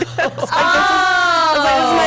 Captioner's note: group ohs; laughs